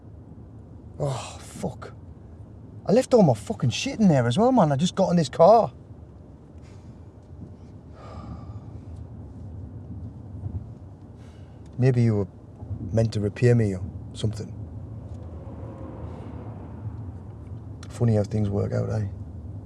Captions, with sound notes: Oh, fuck. I left all my fucking shit in there as well, man. I just got in his car. (sighs) Maybe you were meant to repay me or something. Funny how things work out, eh?